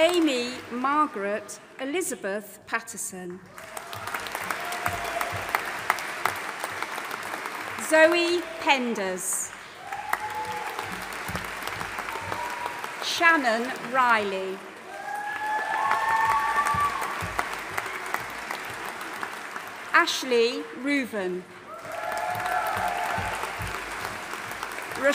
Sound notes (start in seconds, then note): 3.6 audience applauding and cheering; 9.9 audience applauding and cheering; 15.0 audience applauding and cheering; 21.6 audience applauding and cheering